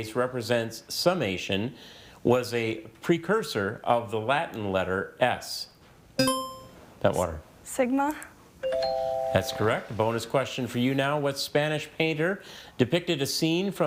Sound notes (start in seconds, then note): 6.2 buzzer chiming; 8.6 text chiming